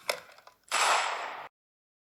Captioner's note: gunshot